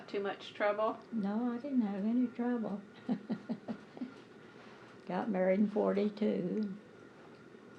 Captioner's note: laughter